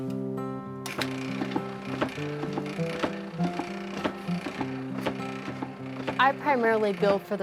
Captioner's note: machine thumping